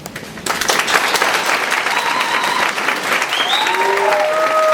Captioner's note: audience applauds